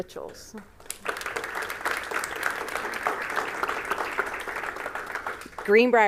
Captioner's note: applause